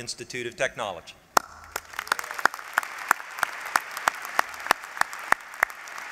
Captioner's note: applause